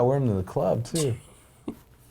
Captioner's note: laughing